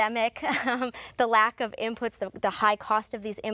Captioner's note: chuckles